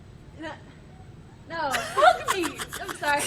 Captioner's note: stammering; Stephanie giggling; laughing